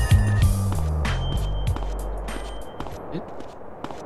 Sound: foot steps

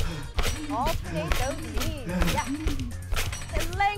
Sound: panting

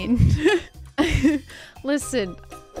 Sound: laughs

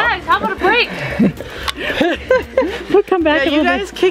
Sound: laughter

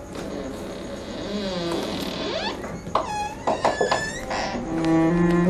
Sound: door creaks

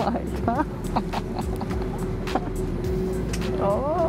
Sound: laughs

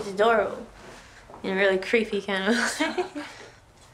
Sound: laughs

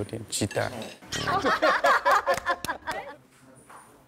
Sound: laughing

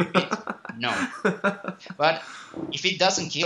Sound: laughing

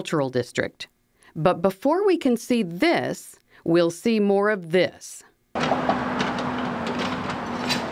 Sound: construction sound

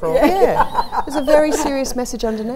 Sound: laughter

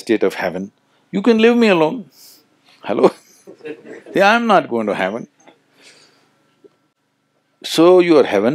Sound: laughs

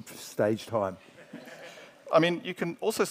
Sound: audience members laugh

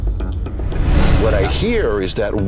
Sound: whoosh

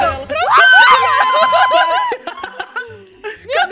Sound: screams and laughter

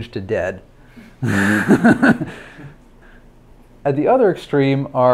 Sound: laughs

